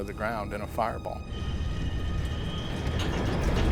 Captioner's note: jet engine noises